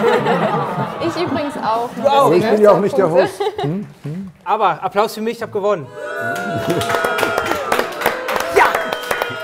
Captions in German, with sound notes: Ich übrigens auch. - Du auch, ne? Aber ich bin ja auch nicht der Host. Aber Applaus für mich, ich hab gewonnen. (Buhrufe) Ja!